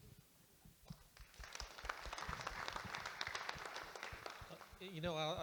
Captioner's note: audience Applauding